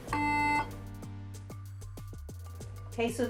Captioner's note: beeping sounds